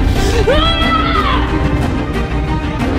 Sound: shouting

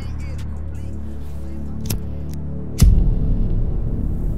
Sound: lighter flicking

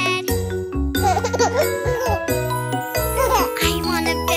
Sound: chuckling

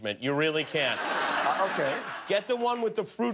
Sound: laughter

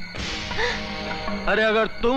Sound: gasps

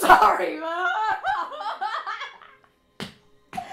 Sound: mimics crying, turns to laughter

